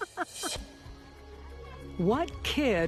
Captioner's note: laughing